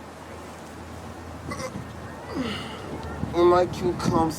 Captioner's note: Bottom sighs